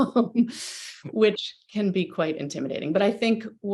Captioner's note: chuckles